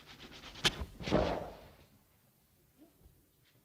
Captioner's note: sawing rope; snap & loud thump